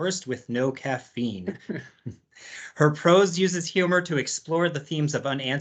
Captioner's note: laughs